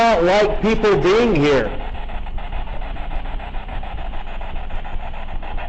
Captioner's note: static buzzing